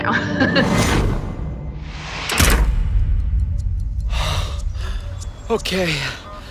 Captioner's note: clock ticking; boom resounds